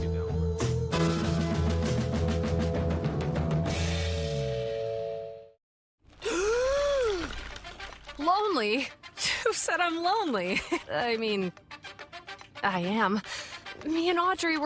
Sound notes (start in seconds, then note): 6.2 exhales